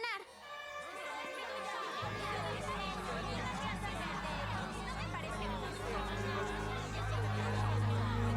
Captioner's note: arguing